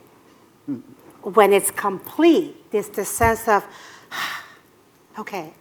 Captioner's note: exhale